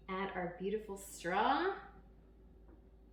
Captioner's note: none